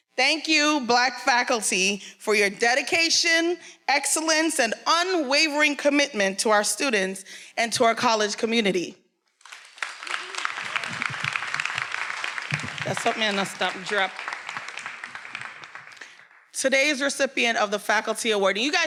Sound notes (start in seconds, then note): 9.3 everyone applauding